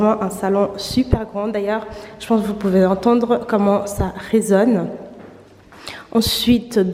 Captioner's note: the echo